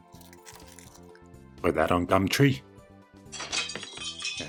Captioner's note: crashing noise